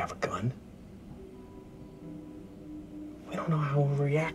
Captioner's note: crickets chirping